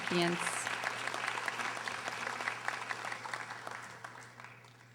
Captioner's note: audience applauding